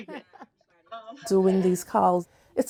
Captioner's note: laughing